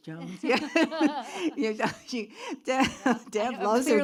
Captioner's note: laughs